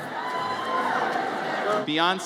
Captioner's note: audience cheers